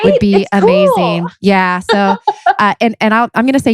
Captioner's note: laughs